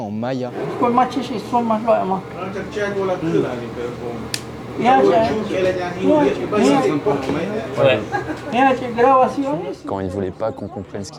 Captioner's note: speaking in Chol Mayan